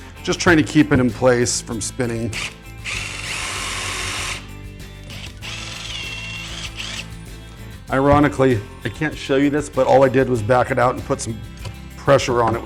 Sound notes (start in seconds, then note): 5.0 drill whirring